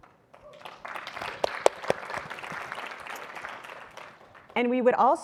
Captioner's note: audience applauding